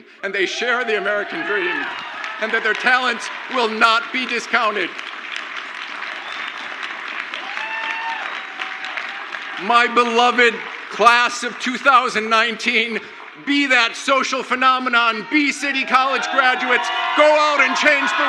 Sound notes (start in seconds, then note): 5.7 crowd applauds; 7.6 crowd cheers